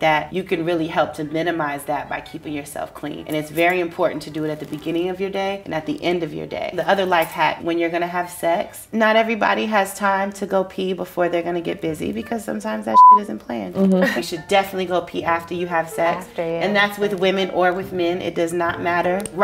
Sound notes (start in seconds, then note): 12.9 beep